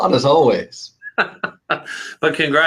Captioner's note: laughter